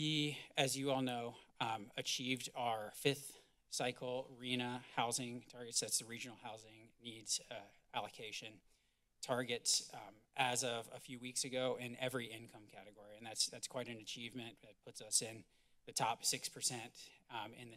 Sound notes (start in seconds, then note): none